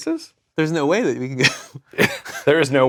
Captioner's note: laugh